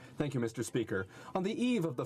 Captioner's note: speaking French